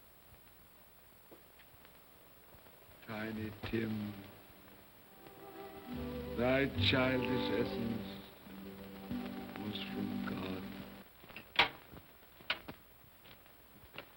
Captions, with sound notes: - Tiny Tim... thy childish essence was from God. (door opens)